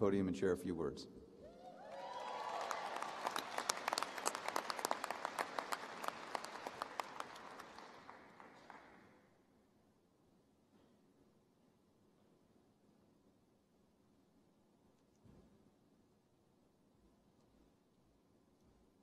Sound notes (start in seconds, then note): 3.7 applause